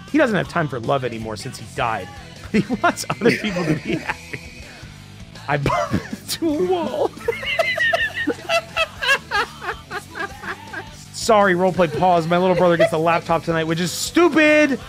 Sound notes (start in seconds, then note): 2.4 laughs; 7.3 laughs